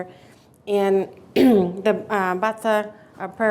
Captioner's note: clears throat